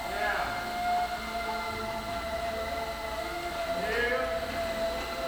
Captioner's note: machinery whirring